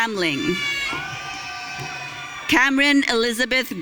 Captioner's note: audience cheering